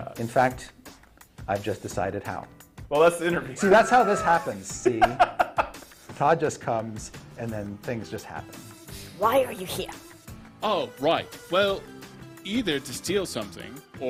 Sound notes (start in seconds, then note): 3.5 laughing; 3.6 chuckling